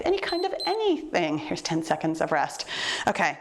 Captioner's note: timer beeps